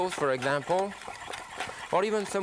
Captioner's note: food mill whirring